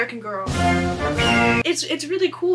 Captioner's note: eagle screech